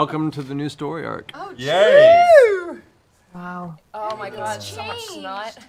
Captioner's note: cheering